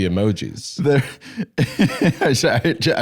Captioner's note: laughs